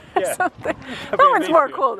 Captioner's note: laughs